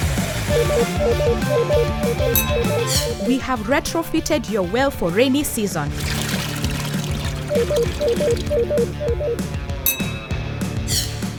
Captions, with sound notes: (beeping) - We have retrofitted your well for rainy season. (water splashing) (beeping)